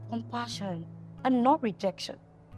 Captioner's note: none